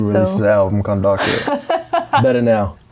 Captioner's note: laughing